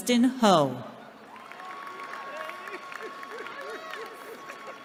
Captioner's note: cheering